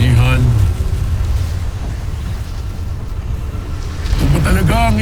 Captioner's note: evil energy whoosh & crackle